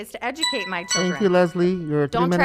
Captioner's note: chiming